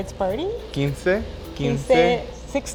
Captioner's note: speaking Spanish